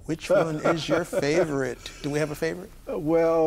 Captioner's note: laughing